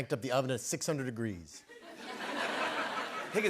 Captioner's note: laughter